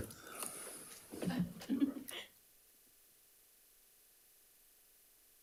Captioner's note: member laughing